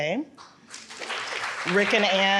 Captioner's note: audience clapping